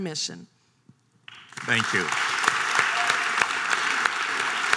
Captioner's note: audience applause